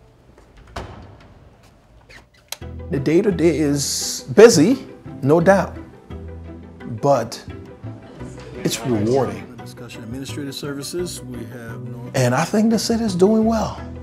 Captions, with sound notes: (door opening) (light switch clicking) The day-to-day is busy, no doubt. But, it's rewarding. And I think the city's doing well.